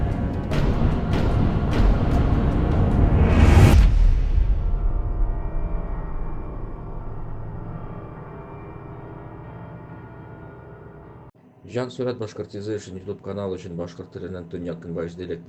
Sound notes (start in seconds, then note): none